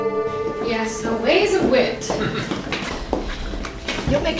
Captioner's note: man laughs